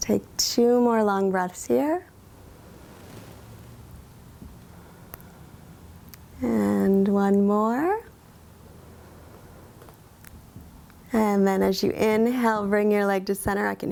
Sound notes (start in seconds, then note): 3.2 inhales; 4.6 exhales